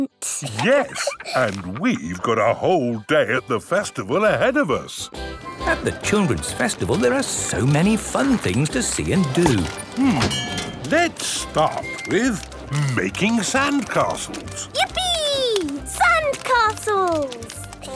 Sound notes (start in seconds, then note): 5.1 festival buzz and music